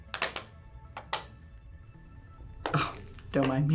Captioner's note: suspenseful music; bottle crunching